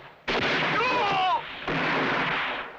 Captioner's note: groans